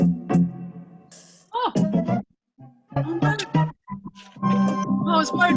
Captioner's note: mumbling